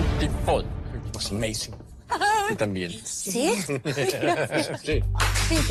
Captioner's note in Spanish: Aplausos y exclamaciones